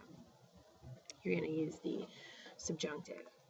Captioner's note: spanish; speaking spanish